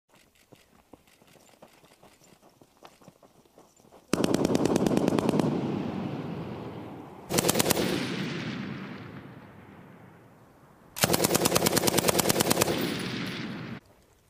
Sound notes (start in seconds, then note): 4.1 gunfire; 10.9 gunfire